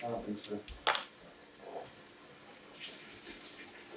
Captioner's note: water running